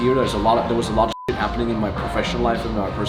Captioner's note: beep